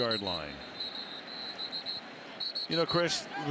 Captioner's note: whistling